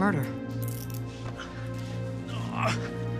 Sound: normal accent; handcuffs click; groans

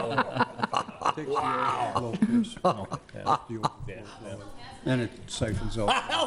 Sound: laughter

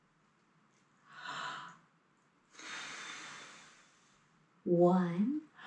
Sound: deep breath

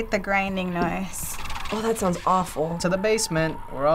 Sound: faint rattling

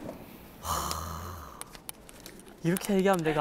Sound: sigh

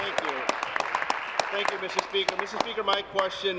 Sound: cheers; applause

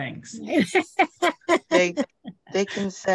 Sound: laughing

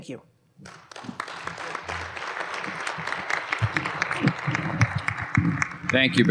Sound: applause

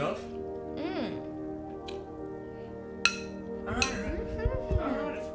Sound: Gabby murmurs

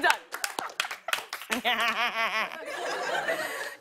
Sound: laughs

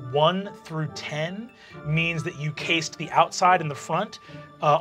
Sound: none

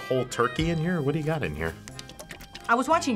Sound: sloshes

